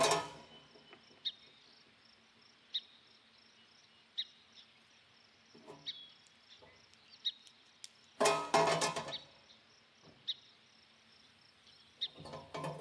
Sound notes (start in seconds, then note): 0.0 metal clanging; 2.9 birds singing; 8.2 metal clanging; 10.9 birds chirping